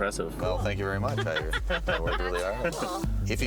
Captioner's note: laughing